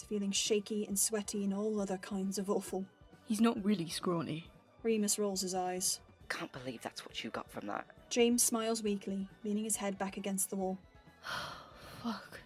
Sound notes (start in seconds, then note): 10.8 James exhales